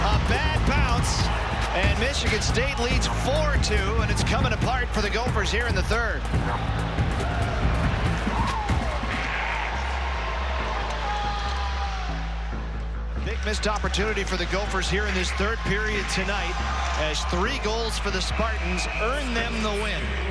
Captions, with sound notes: A bad bounce and Michigan State leads four two, and it's comin' apart for the Gophers here in the third. (crowd noise) (echoing electronic music) A big missed opportunity for the Gophers here in this third period tonight. As three goals for the Spartans earn them the win.